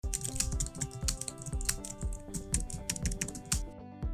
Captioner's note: keyboard clicking